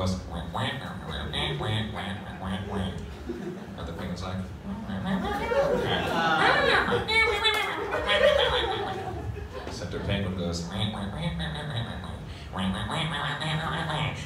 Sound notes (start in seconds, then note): 4.5 amused Penguin noises